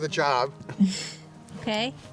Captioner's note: laughs